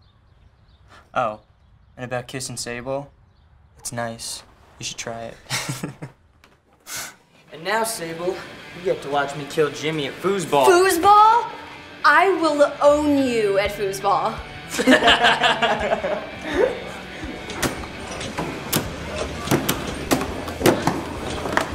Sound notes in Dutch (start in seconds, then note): 14.7 laughter